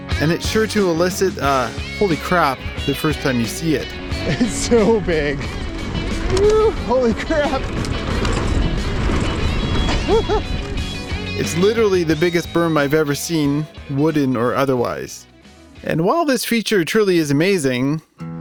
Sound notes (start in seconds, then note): 8.2 bikes scraping; 9.8 biker laughs